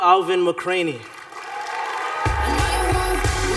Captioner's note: cheering